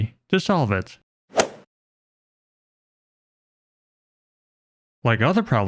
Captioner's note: golf ball hit sound effect